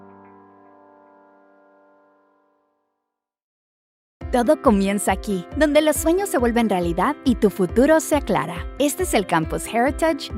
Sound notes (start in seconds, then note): 4.4 announcer speaking in foreign language